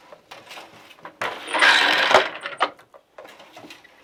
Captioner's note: noise of shuttle moving